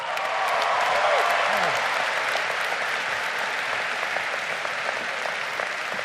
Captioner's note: crowd applauding